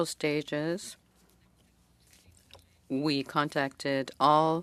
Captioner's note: speaking French